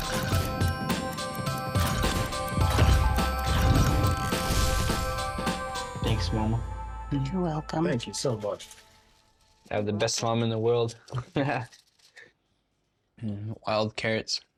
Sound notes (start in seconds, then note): 11.1 chuckles